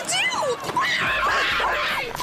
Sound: screaming, barking

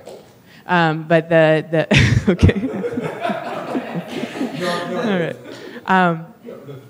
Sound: laughter

